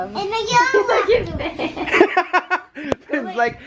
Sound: laughing

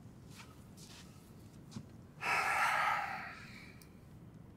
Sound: Reid sighs

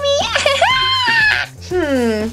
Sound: Jack-Jack giggles

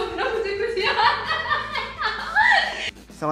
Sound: laughing

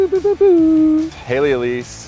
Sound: vocalizes finger gun sounds

